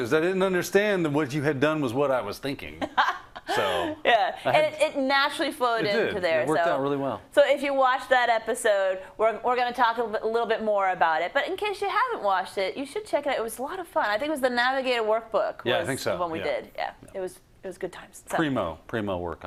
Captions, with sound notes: I didn't understand that what you had done was what I was thinking so. -[LAUGH] Yeah, and it naturally flowed into there. -It did, it worked out really well. -So if you watch that episode we're gonna talk a little bit more about it, but in case you haven't watched it you should check it out. It was a lot of fun, I think it was the Navigate a Workbook- -Yeah, I think so. -Was the one we did, it was good times. -Primo, Primo work on our part.